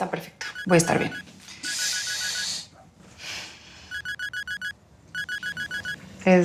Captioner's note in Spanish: timbre de teléfono